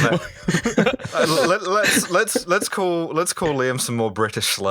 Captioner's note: laughter